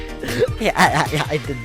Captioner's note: laughs